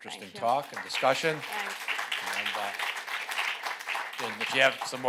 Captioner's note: applause